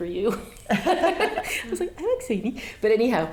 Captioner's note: laughing